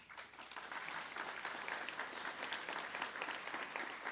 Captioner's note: applause